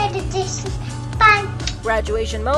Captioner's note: kiss